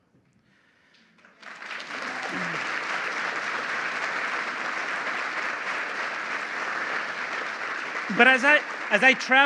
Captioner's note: applause